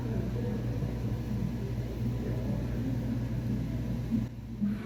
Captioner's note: indistinct crowd noises